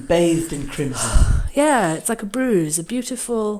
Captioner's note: sighs